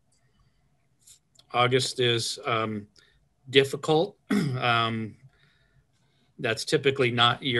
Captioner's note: clears throat